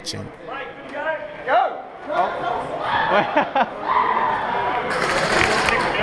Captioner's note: someone else laughing like a maniac